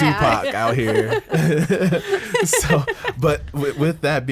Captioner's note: group laughs